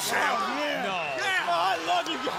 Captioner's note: crowd chatter